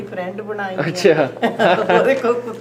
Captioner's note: okay *laughs